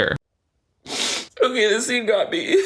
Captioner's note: sniffling